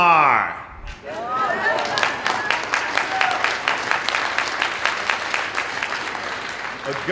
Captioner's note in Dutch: Applaus